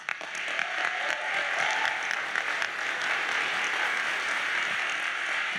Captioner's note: audience cheers and applauds